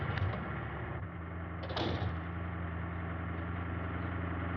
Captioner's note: door closes